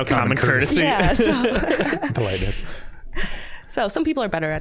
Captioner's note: all laughing